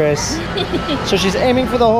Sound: laughs

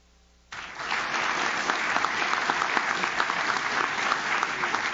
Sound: audience claps

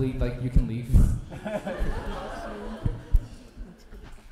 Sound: laughter

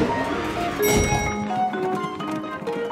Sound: dinging

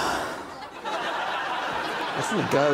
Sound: sighs

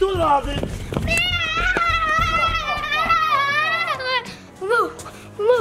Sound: screaming

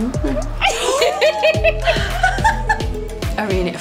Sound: laughing

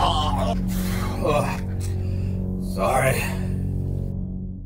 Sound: sighs

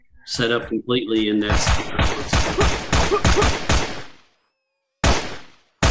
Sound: gunshots blasting

